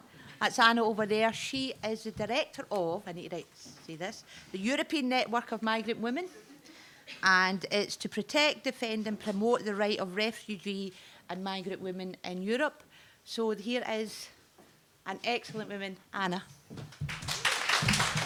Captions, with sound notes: That's Anna over there she is a director of and is the Director of the European network of Migrant women and it's to protect defend and promote the right of refugee and migrant women in Europe so here is an excellent woman Anna [Applause]